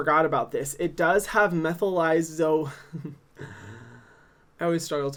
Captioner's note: laughs